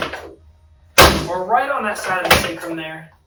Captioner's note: table thuds